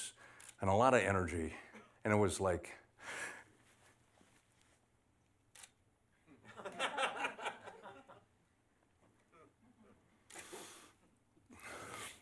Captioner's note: laughter